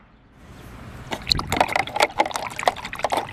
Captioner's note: water sloshing